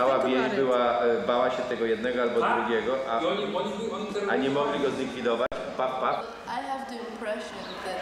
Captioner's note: speaking Polish